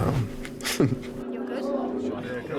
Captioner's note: chuckles